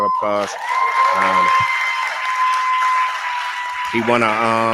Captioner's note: cheering